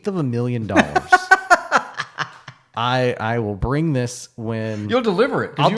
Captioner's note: laughing